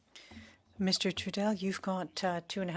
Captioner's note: speaking French